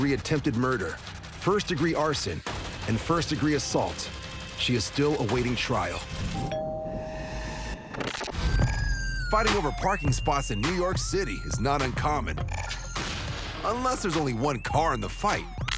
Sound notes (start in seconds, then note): 6.4 doorbell rings